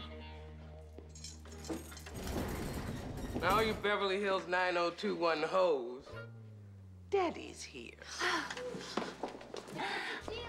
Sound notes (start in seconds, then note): 8.0 sighs; 9.7 chuckles